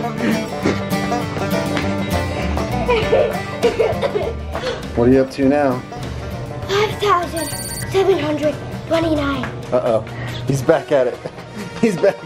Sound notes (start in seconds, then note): 2.9 laughing